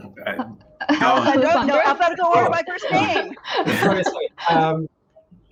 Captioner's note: laughing